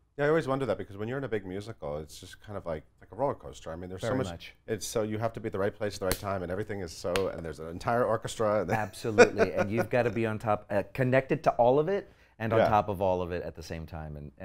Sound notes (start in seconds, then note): 6.0 slap